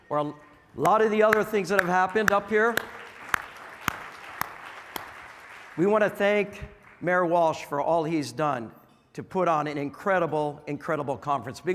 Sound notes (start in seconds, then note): 2.8 audience clapping; 2.8 clapping